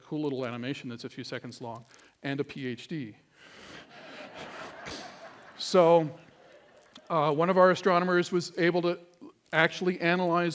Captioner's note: laughter